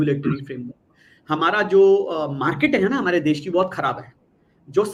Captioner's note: non-english speech